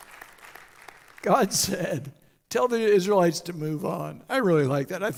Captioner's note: audience Applauds